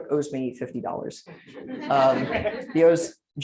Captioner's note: laughter